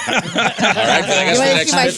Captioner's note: laughing